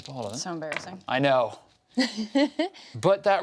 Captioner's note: laughs